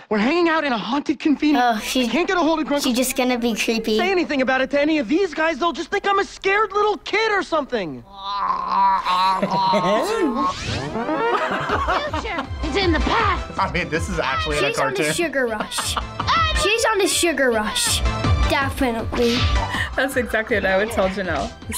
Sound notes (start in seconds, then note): 8.0 groans; 8.1 upbeat music; 14.6 laughs